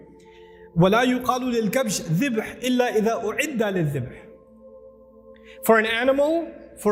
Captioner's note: Arabic